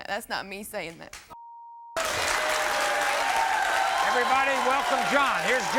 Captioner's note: audience cheers